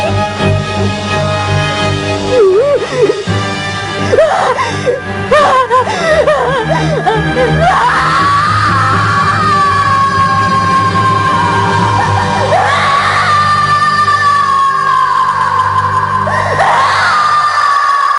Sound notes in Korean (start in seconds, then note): 7.5 강태양의 절규하는 소리